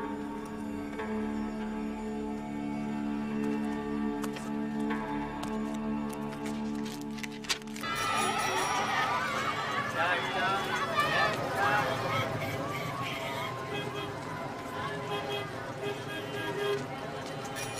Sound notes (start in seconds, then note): 7.8 traffic blaring; 7.9 chattering